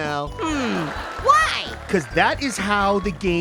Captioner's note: grunts in disappointment